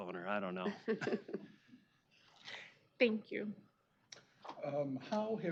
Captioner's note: laughing